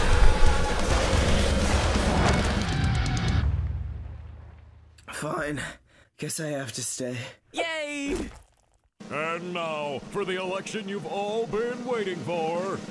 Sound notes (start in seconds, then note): 3.4 crash; 5.6 catching breath